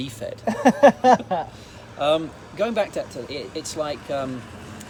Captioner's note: laughs